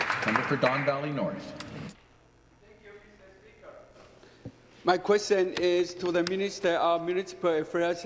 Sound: applause

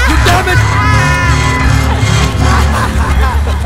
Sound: voices laughing sound intensifies

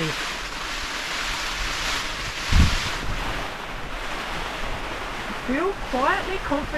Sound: rain lashing tarp

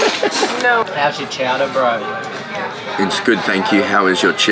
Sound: laughter

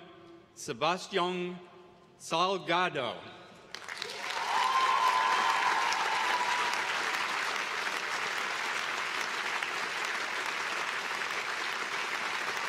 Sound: applause

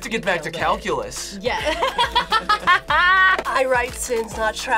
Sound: laughs

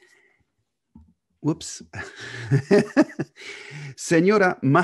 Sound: laughs

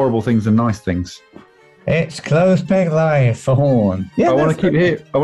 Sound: nasally

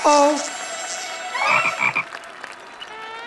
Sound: croaking

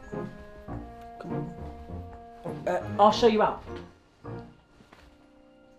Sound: whispered

